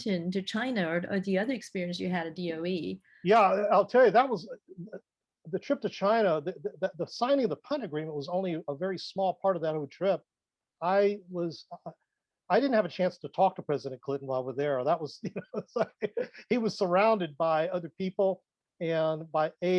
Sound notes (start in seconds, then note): 15.2 laughs